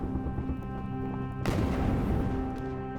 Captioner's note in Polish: odgłosy wojny; nostalgiczna muzyka